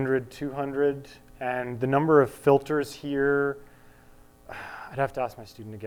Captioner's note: sighs